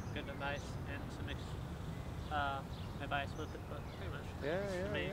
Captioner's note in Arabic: يتمتم